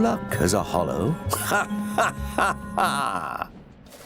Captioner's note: laugh